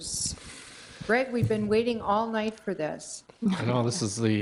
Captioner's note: chuckles